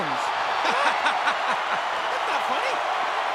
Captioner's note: Jim laughs